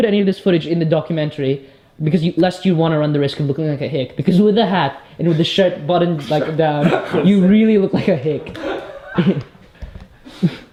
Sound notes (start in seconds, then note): 6.0 laughs; 9.7 both laugh